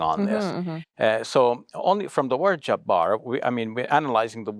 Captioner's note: foreign language